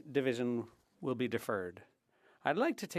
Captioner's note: speaking French